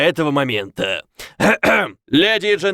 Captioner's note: clears throat